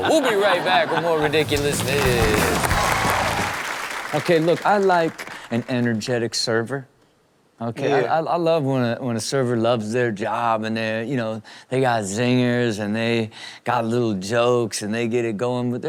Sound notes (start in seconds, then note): 1.2 audience applauding